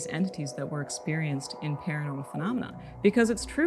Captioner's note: brief warbling sound